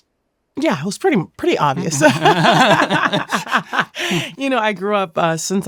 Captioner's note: both laughing